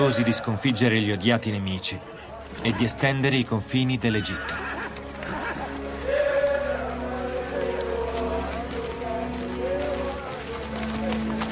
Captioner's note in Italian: Applauso